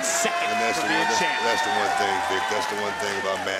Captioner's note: applause